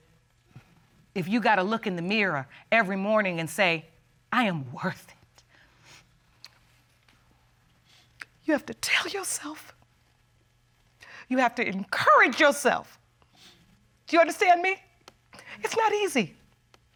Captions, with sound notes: If you got to look in the mirror every morning and say, "I am worth it." [sniffles] [voice breaks] You have to tell yourself... you have to encourage yourself. Do you understand me? It's not easy.